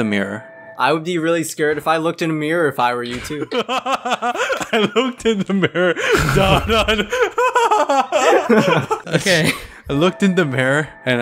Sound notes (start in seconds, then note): 3.0 laughing; 7.2 laughing harder